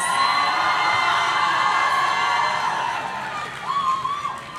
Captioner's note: audience cheering